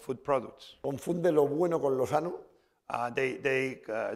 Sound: speaking spanish

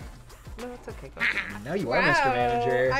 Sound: laughs

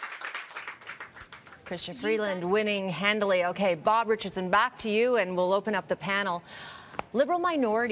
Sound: cheering and Applause

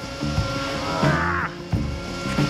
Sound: HULK sound

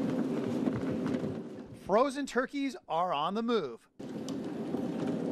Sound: food cart rolling on concrete

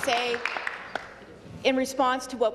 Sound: applause

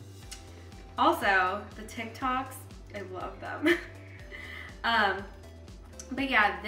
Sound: chuckles

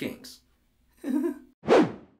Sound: nervous chuckle

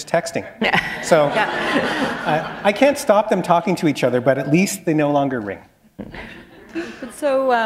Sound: laughter

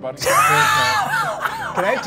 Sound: all laughing

